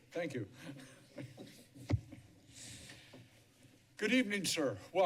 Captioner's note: laughter